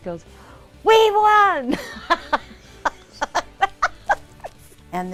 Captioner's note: laughing